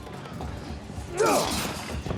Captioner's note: grunts